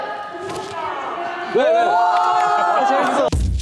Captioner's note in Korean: 우오오오올!